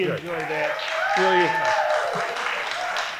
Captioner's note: audience cheering; audience applauding